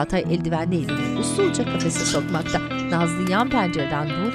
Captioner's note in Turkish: Papağan sesi